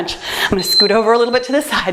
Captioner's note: timer beeps